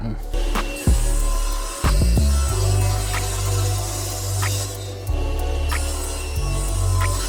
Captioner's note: chill music; saw whirring